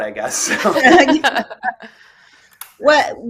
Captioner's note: laughter